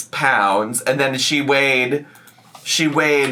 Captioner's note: mouse clicking